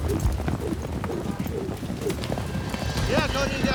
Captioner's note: rope whirling